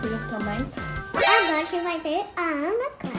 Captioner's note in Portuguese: som de espanto